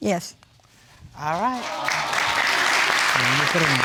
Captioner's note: audience cheering